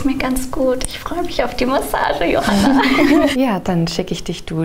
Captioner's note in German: lachend